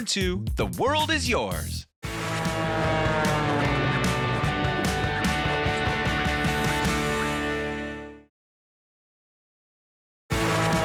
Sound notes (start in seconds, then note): 2.1 upbeat music; 2.2 plane engine; 10.6 plane engine; 10.6 upbeat music